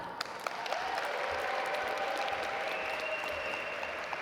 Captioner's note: audience applaud